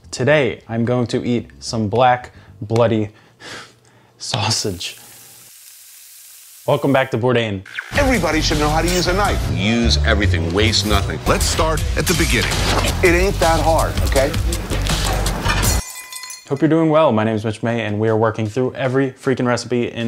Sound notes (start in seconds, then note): 4.3 pan sizzling; 14.7 dramatic music